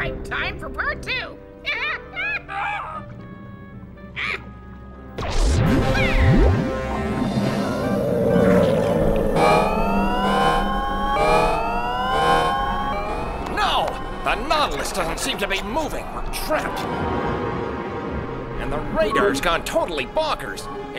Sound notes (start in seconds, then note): 5.2 zap; 9.0 alarm blaring